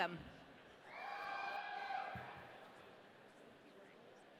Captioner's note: audience cheering